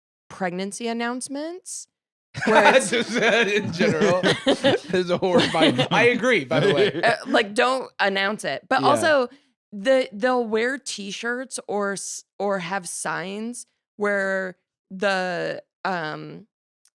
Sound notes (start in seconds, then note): 2.4 laughs